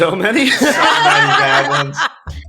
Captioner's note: laughing